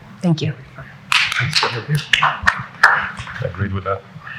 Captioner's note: applauding